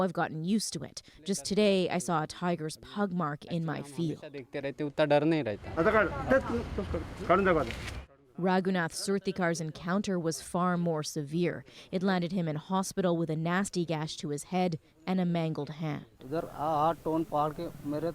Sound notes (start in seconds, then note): 11.4 speaking Foreign Language